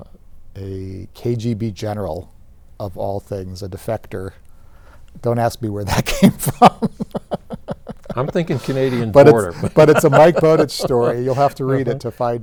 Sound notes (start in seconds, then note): 6.0 laughs